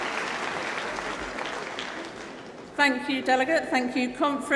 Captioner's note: applause